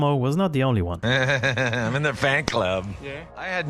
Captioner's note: laughs